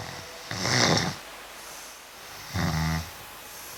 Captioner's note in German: Schnarchen